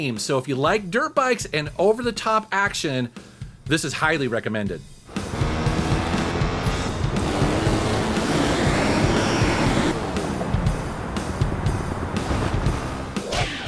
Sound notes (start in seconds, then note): 5.0 dirt bike engine revving